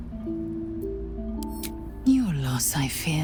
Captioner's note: click